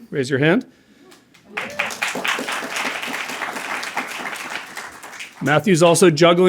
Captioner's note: applause